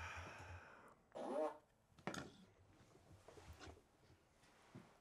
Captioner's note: fart machine farts